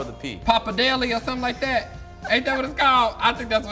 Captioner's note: laughing